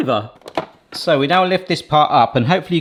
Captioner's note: lid clicks